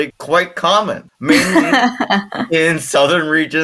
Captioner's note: laughing